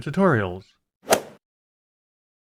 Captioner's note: swoosh